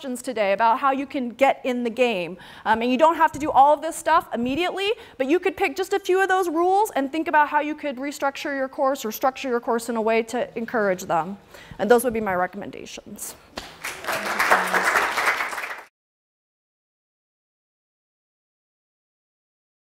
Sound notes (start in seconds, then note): 13.6 applause